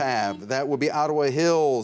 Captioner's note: buzzer rings